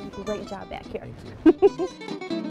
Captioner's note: laughs